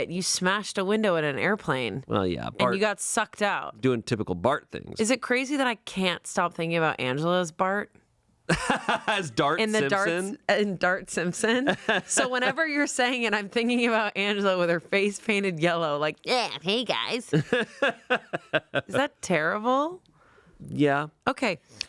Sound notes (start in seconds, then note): 8.5 laughing; 17.3 laughing